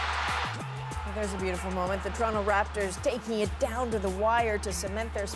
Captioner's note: cheers and Applause